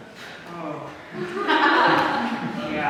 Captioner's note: audience laughs